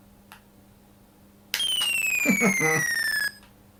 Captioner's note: laughing